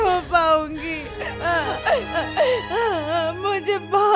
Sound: crying

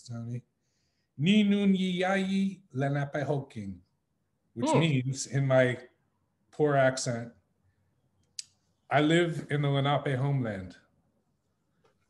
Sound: in Munsee

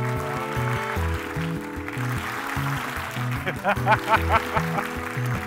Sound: clapping; laughing

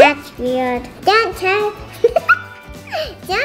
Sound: laughter

